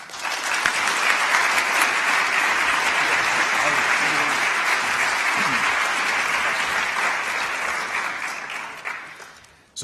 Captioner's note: applause